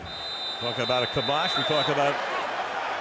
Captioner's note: whistle